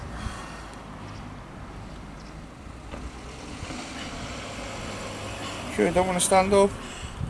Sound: traffic noise

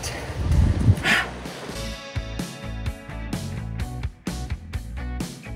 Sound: sharply exhales

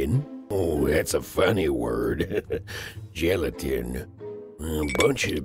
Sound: laugh

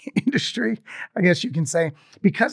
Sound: laughs

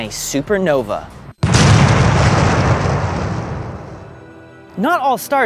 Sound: explosion sound

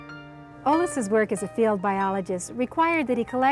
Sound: voiceover

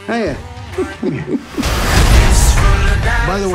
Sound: chuckles

